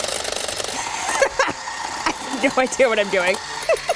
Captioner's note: laughing